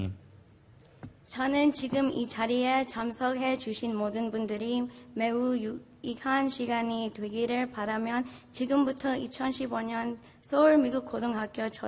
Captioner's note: speaking in Foreign Language